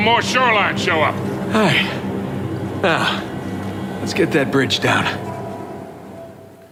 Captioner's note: sigh